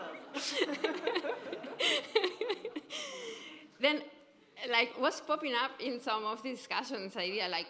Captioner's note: laughter